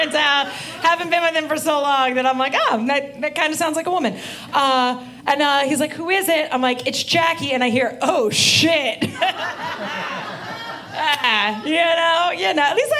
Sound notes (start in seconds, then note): 0.0 audience laughing; 9.2 audience laughing